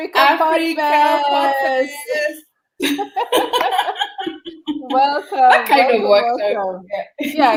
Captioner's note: laughter